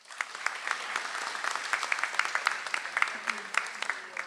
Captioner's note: audience applauds